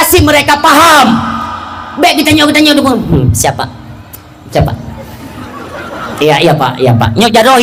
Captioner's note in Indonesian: berteriak